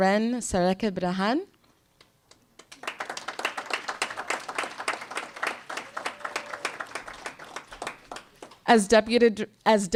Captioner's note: applause